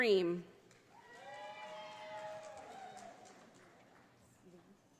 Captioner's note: audience applauding